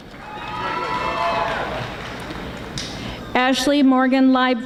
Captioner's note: audience applauding